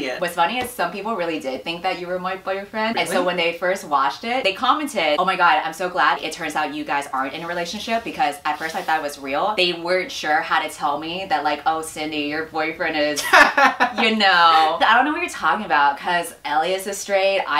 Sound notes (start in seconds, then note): 13.2 laughs